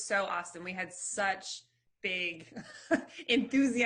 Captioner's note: chuckles